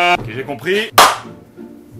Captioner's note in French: claquement de main